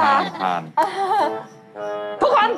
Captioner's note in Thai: หัวเราะ